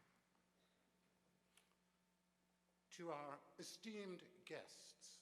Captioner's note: none